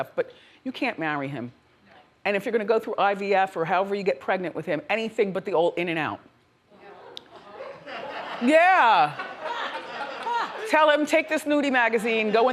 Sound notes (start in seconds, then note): 6.8 audience laughs